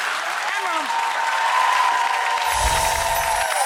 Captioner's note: applause